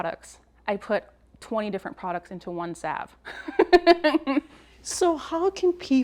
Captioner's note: laughs